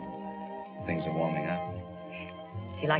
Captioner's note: none